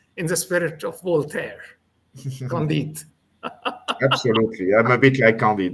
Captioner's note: laughs